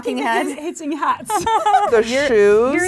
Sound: laughing

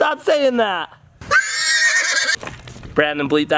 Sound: horse whinnies

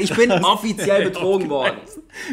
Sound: laughs

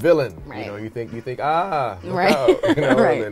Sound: laughs

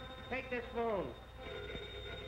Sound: phone ringing

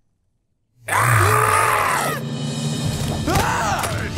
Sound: screaming

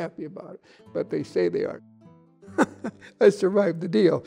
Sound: laughing

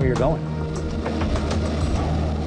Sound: engine roaring

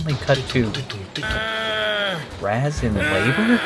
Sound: moaning

